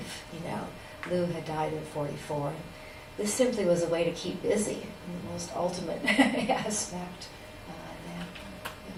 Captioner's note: laughs